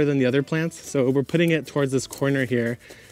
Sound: shovel swishes

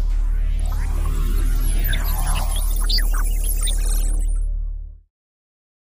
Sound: electronic sound effects

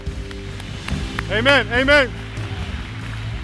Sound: applause

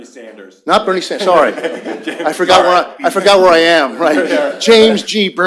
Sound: laughter

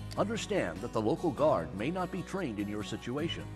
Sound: voiceover

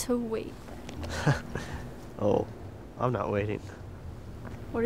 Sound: laughs

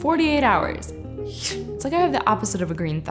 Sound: slicing noise

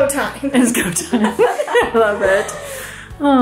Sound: all laughing

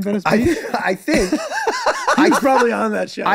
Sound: Glenn laughing

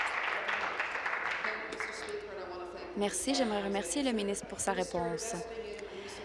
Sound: applause

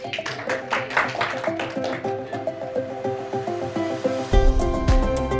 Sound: applause

